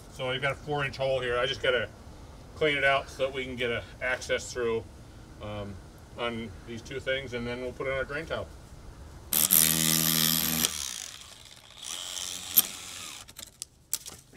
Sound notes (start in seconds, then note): 9.3 machine drilling